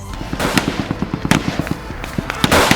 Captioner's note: gunfire and explosions